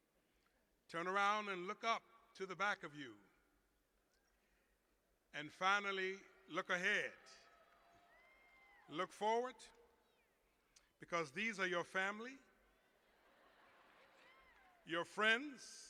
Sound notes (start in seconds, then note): 7.2 cheers; 12.9 laughter